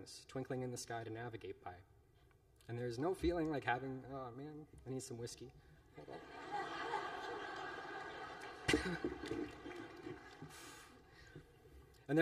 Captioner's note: laughter